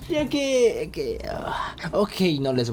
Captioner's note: sighs